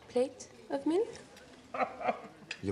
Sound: chortles

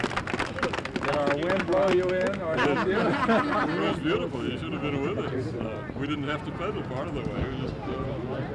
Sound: applause; laughs

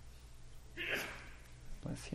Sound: sneeze

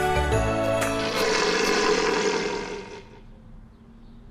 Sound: creature growling

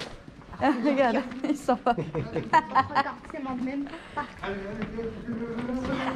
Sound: laughs

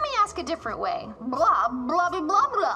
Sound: speaking Blobian

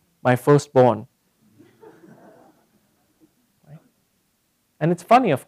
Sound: laugh

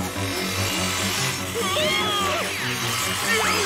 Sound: screaming

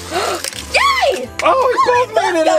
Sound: assistant gasps

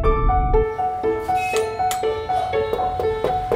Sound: doorbell ringing; knocking on door

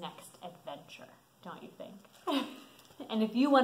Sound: laughs

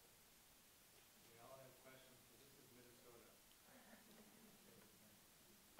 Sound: man speaking off microphone

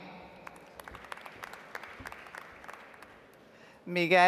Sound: audience applauds

